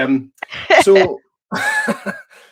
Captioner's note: laughs